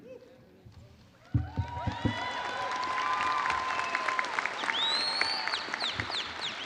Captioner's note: audience cheering and applauding